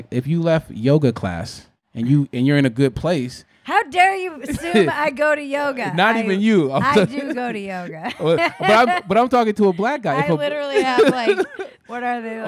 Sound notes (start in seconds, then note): 8.7 laughing